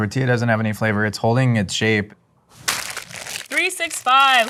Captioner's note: wrapper crunching